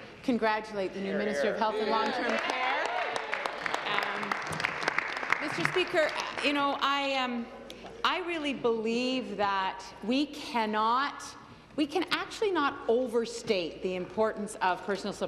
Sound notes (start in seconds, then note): 6.5 applause